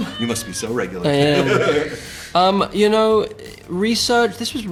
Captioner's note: laughter